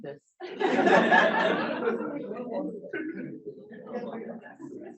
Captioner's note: audience laughing